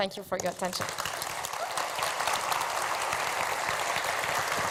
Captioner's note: applause